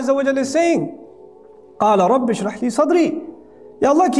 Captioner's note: Arabic